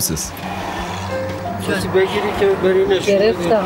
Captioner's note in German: Sie sprechen in ihrer Sprache